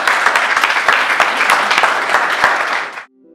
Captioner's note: applause